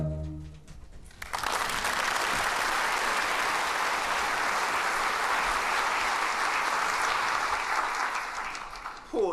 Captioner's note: applause